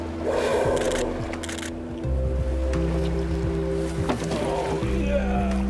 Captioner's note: camera shutters clicking